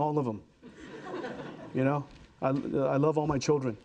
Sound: audience laughing

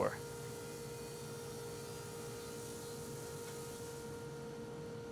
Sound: machine whirring

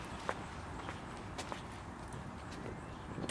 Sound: birds chirping

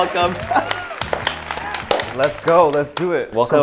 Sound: both clapping

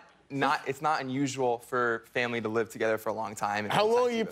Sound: laughter

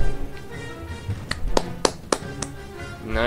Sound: claps

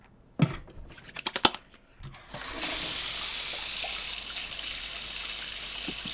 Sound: heavy water flow

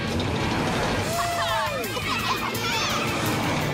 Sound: all cheering

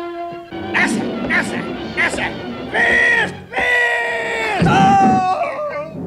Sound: shouts, yelps and snarls

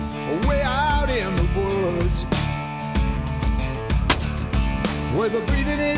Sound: gunshot

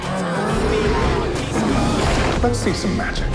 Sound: alligator roars

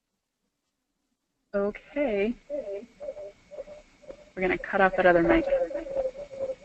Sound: background echo

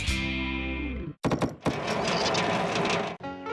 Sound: rumbling; tapping; country Music

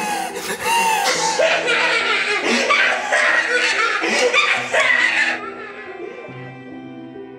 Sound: laughs; laughing intensifies

